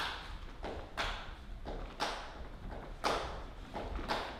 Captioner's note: rhythmic stomping